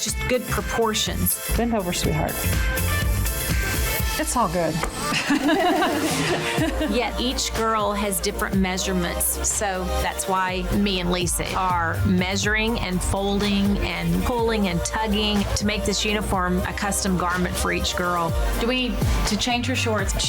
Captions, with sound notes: Just good proportions. - Bend over, sweetheart. (energetic music) It's all good. (laughing) - Yeah, each girl has different measurements, so that's why me and Lisa are measuring, and folding, and pulling, and tugging to make this uniform a custom garment for each girl. Do we need to change her shorts?